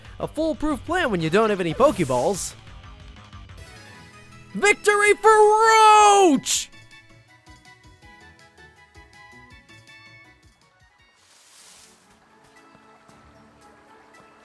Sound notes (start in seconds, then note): 11.2 grass rustles